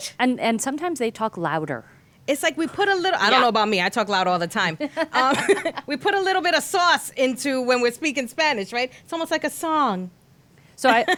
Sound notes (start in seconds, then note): 4.8 laughing; 10.9 laughing